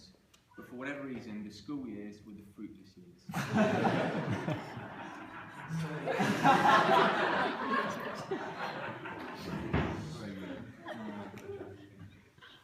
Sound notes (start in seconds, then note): 3.3 laughter